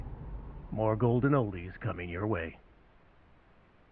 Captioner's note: radio